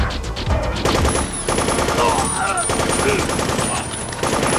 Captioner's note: machine gun firing